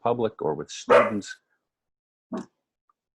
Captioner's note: dog barks